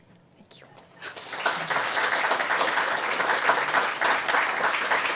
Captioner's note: applause